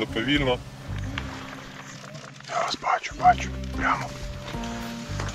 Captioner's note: woods sounds